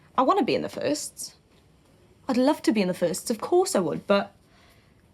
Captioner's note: none